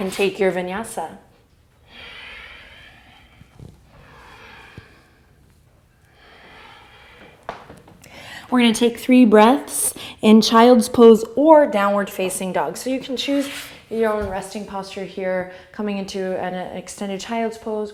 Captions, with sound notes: and take your Vinyāsa. (deep breathing) We're gonna take three breaths in child's pose or downward facing dog. So you can choose your own resting posture here, coming into an extended child's pose